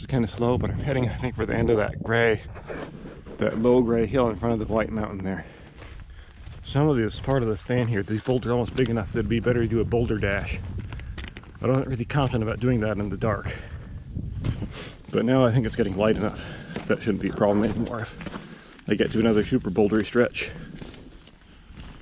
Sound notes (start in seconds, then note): 5.5 footsteps thumping; 14.3 footsteps thumping; 14.7 man sniffing